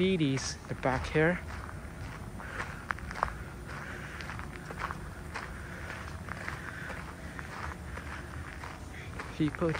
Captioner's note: walking on gravel